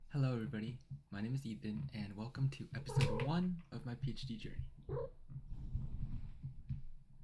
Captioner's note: cat chirps